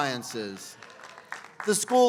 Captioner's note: applause